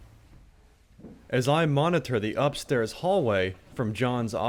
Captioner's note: voiceover